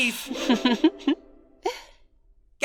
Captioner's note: Candle laughs